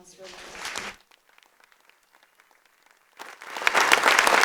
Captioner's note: audience clapping